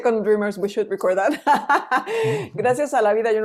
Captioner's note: laughs